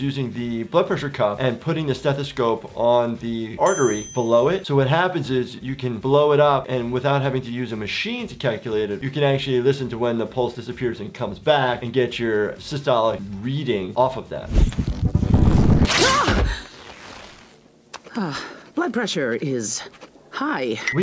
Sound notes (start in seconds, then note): 15.9 female doctor shouts